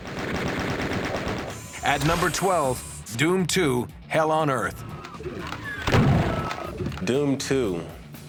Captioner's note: gunfire